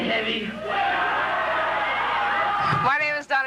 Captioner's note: crowd cheering